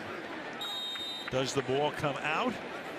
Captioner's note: whistle